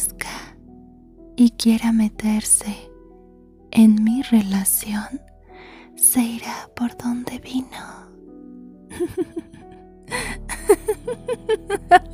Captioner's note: laughs